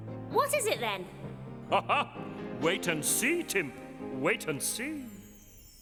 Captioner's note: chuckles